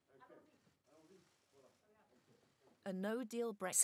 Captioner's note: speaking in foreign language